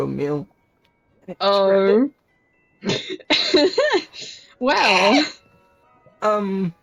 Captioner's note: chuckles